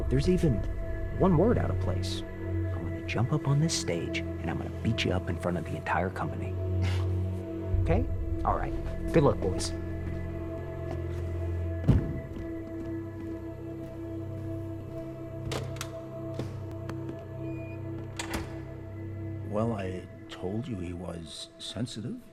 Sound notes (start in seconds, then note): 15.1 theater door closing